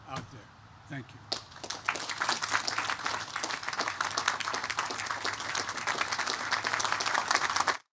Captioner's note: applause